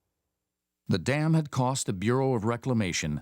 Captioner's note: voiceover